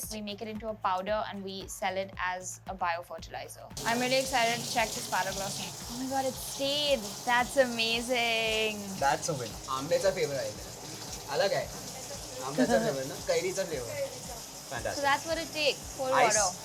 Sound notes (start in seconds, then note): 9.9 team members speaking in foreign language